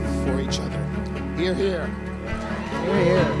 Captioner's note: people cheering